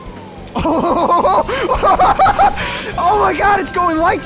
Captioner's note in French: Rigole intensément